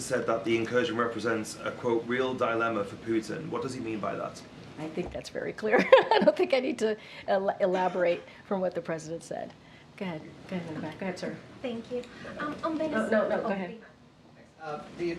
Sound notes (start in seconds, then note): 6.1 laughs